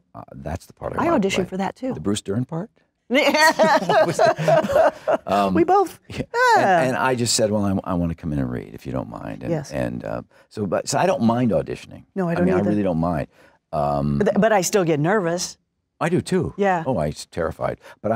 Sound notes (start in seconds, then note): 3.2 laughter